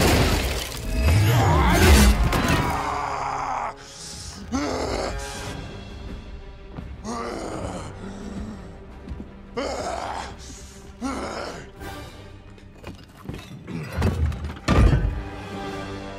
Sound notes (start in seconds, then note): 0.9 screaming; 4.3 thanos groaning